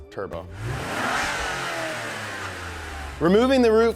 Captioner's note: engine revving